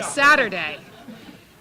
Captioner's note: laughter